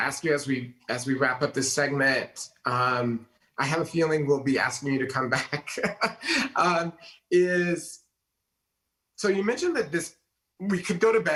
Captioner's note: laughs